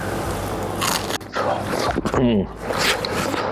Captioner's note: potato crunching